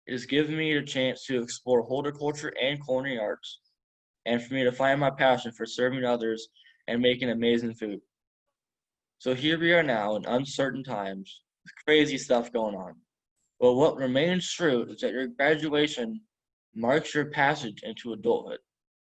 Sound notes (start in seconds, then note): none